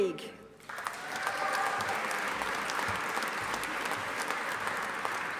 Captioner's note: audience applauding